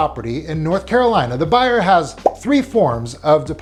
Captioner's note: graphic blipping